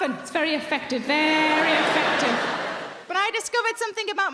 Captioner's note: audience laughing